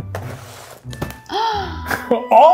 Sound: gasps

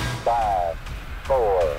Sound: voiceover

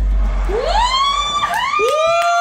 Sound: exclaiming

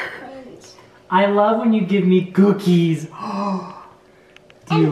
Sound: gasps

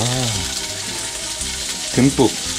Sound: sizzle Sizzle

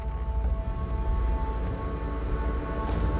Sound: engine accelerates

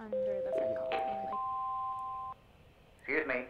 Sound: melodic chime

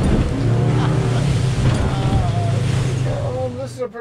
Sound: engines running

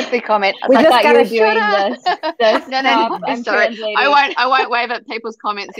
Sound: chuckle

